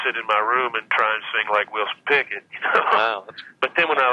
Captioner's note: laughs